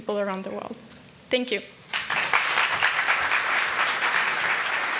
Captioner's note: audience applauding